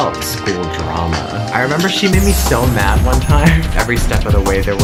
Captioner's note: chuckles